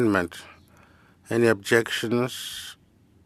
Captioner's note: speaking FRENCH